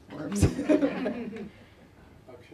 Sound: laughter

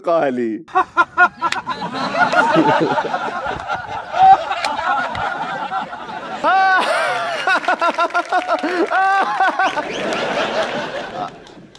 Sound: frantic laughter

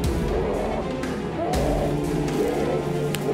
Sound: howling

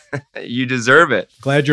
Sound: laughs

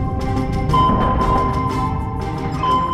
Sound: beeping

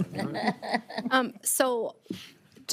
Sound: all laughing

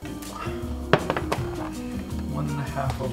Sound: squeaking

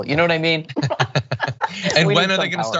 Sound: laugh

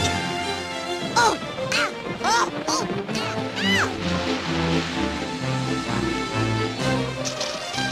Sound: shouts of pain

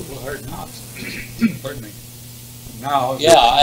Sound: cough

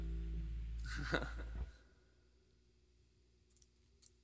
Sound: laughs

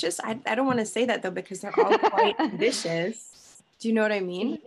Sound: laughing

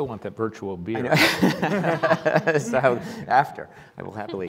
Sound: laughing

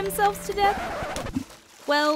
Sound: record scratch

